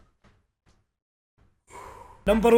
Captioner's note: exhales